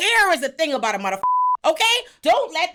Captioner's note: beep